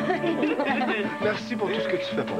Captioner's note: Rires